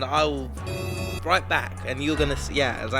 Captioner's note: horn honking